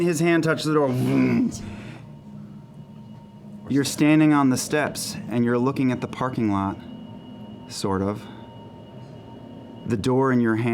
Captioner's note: deep humming